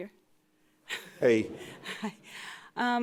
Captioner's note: audience member laughing